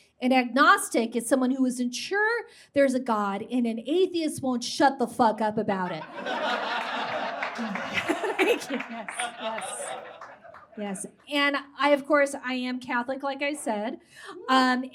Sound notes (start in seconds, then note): 5.9 audience laughs